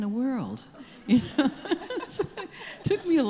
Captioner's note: laughing